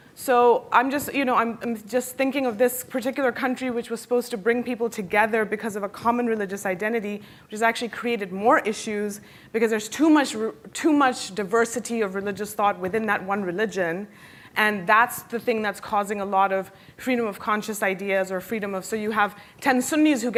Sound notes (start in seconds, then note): none